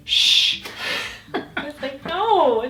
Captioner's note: chuckles; laughs